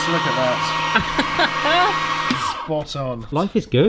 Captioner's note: laughs